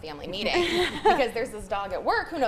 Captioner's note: group laughing